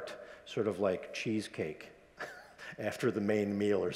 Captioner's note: chuckles